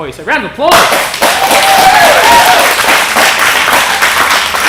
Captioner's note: clapping